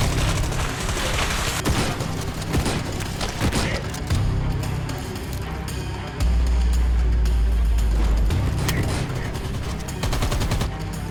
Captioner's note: gun fire